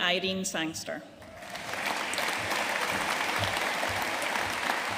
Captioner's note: audience applauding